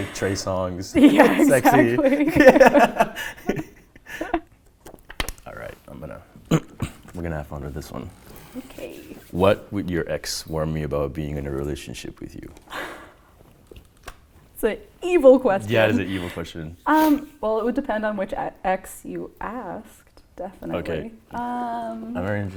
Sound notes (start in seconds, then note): 2.8 laughing; 6.4 clears throat; 12.7 gasps